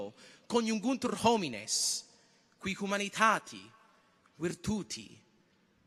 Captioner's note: continues to speak in Latin